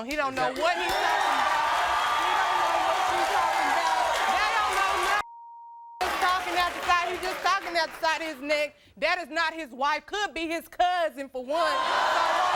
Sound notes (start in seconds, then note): 2.7 audience cheering; 11.6 audience booing